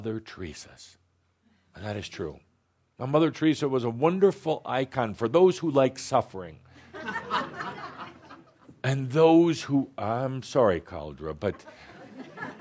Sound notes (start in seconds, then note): 6.8 laughter